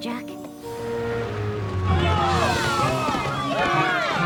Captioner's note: ponies shouting angrily